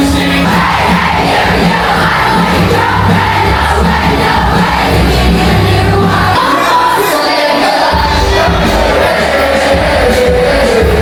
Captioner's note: crowd Cheering; upbeat Music; crowd Cheering